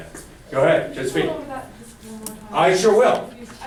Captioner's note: voiceover